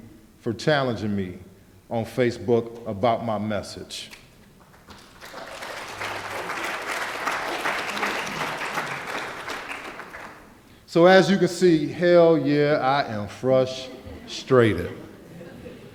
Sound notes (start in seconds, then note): 4.6 applause